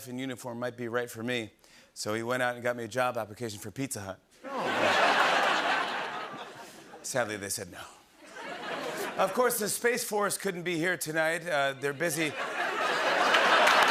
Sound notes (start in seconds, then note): 4.4 laughter; 8.8 laughter; 12.1 laughter